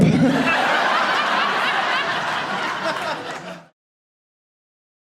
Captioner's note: audience laughing